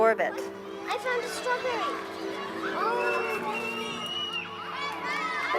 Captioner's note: children chattering